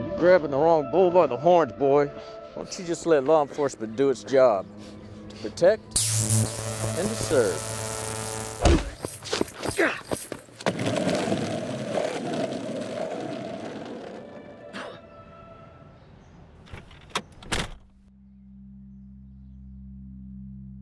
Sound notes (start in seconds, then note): 6.0 stun gun zapping; 8.6 fist thuds; 8.7 Mack gasps; 10.6 skateboard rolling; 14.7 Mack coughs; 18.0 tense music